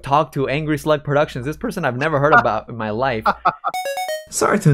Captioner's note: laughs